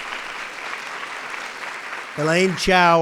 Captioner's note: applause